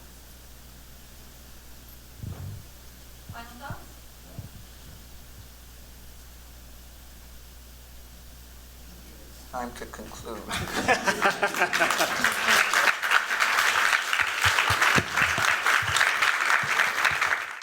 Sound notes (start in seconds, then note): 10.4 chuckling; 10.7 applause